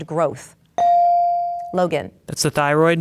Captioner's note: bell dings